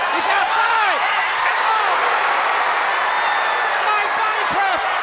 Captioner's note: crowd cheer